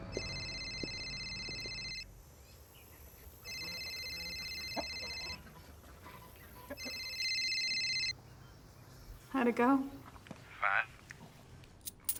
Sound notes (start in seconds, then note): 0.1 cell phone rings; 4.6 chickens cluck; 6.7 cell phone rings